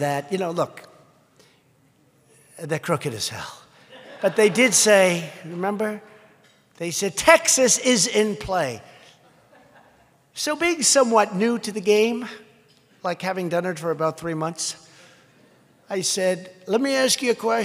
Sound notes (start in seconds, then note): 3.8 laughter; 9.2 laughter